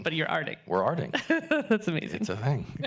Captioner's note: laughing